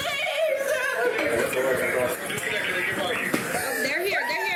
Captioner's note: radio chatter